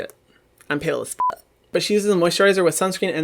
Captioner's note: beep